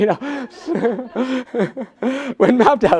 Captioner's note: laughs